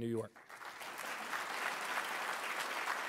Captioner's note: applause